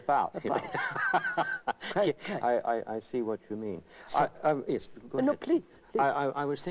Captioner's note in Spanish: Ambos ríen